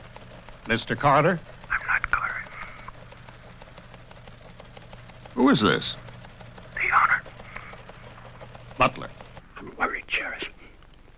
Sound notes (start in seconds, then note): 1.7 killer, whispering